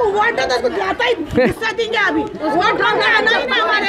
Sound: chuckles

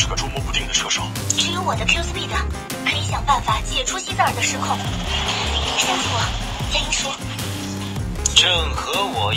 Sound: starts the engine

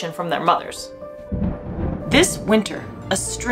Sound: background music; thunder sound

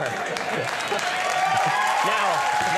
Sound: audience applauds

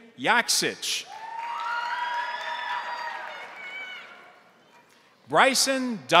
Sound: crowd cheering; crowd applauding

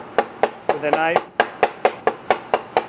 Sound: knife bangs

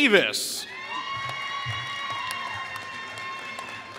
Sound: applause

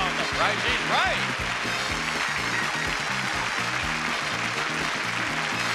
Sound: audience applauding

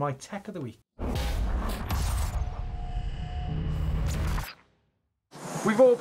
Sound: metal clashing and sparking

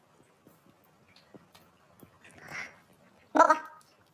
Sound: laughing

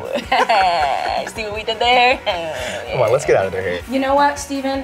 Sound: laughs

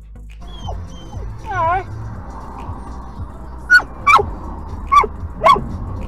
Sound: dog barks in the back of the car

